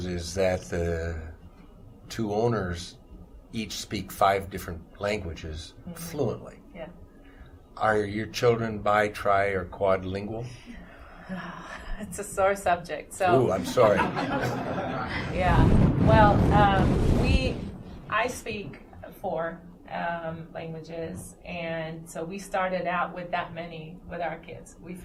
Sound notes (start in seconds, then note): 15.5 laughter